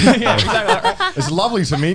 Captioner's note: laughs